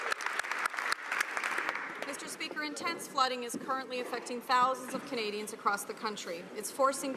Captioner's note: some Applause